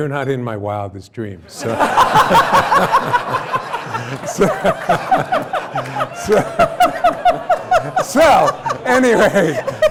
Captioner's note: laughter